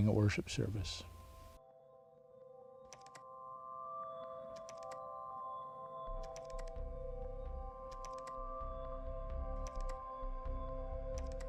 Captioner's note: instrumental music plays; keyboard clacking sound